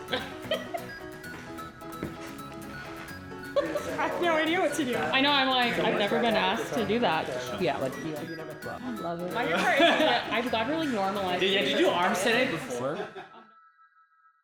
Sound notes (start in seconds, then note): 9.4 laughs